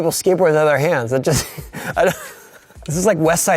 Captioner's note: laughing